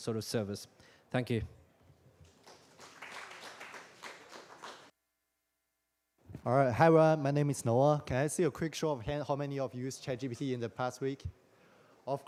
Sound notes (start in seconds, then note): 2.2 applause